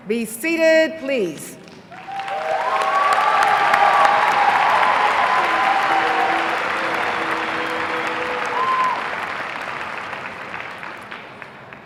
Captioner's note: applause